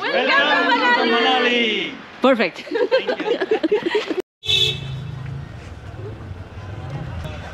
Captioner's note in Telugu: నవ్వు